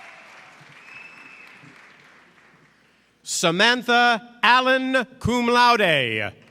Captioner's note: applause